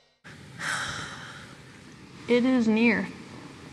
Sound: sighs

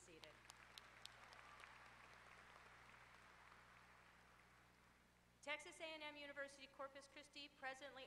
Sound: applause

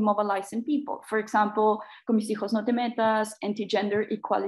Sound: speaks in foreign language

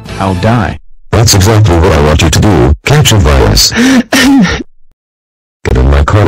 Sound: fake sob

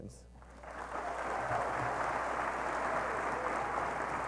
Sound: applause

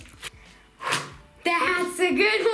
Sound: smack

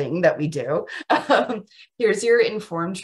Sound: chuckles

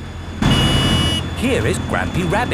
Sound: honking

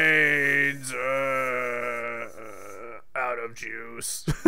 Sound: groans

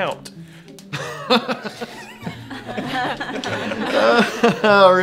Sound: laughing

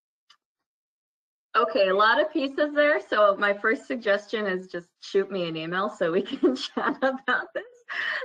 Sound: laugh

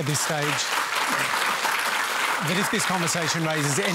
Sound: applause

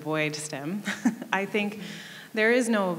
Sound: laughing

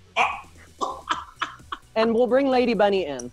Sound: laughs

